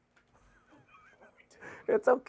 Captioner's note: laughter